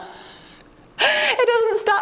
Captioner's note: laughing